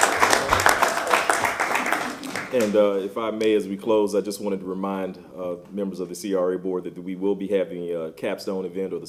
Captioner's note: applause